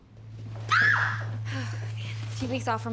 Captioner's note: ainsley screams